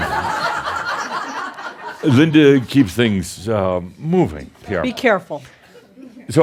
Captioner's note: audience applause; laughter